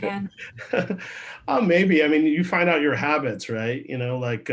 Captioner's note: laughs